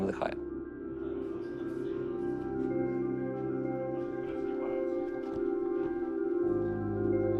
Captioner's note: team chattering